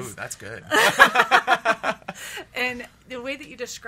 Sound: laughs

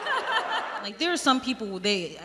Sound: crowd laughs

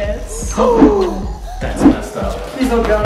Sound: gasps

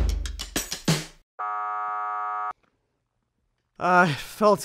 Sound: buzzer blares

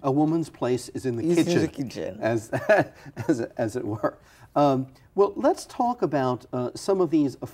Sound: laughter

